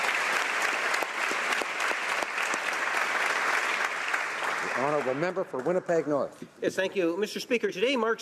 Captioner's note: applause